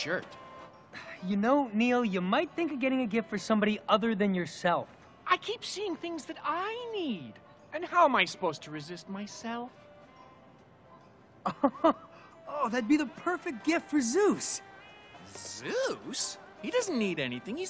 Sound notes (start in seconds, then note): 11.4 chuckling